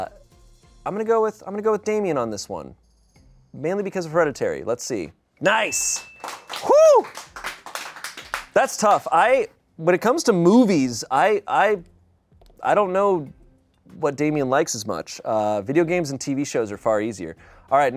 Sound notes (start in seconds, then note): 5.5 bell dings; 5.5 people applaud